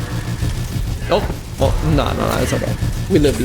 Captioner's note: anxious noises